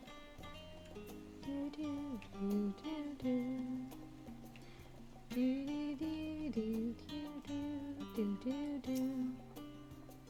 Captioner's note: humming